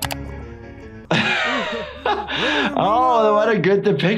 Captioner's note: laughing